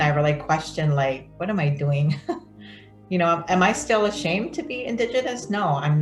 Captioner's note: laughs